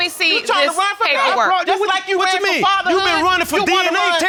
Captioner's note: clamoring